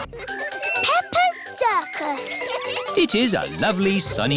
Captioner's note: children giggling